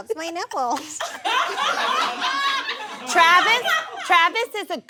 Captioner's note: audience laughs